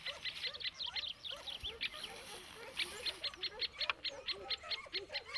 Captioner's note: dogs barking